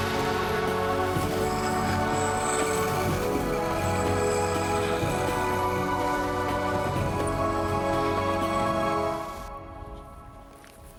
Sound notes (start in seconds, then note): none